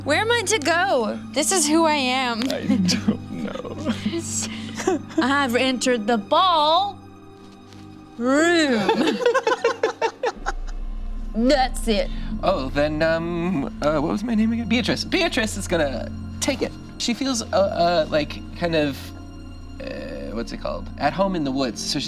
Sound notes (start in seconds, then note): 2.6 laughs; 8.6 group laughs